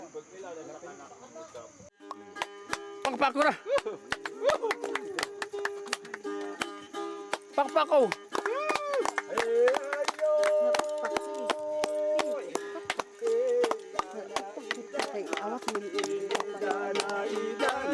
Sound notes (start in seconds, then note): 2.3 applauds; 10.4 chants